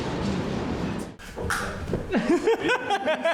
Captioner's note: clicking sounds; laughing